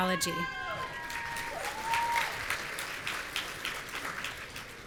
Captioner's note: audience cheering